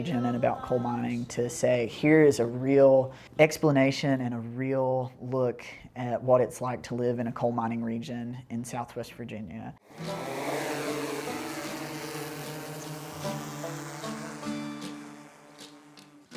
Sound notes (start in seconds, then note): 9.8 drone buzzing; 13.2 light folk music